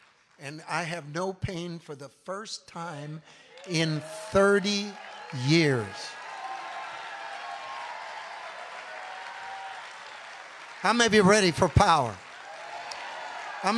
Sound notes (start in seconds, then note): 6.2 congregation cheering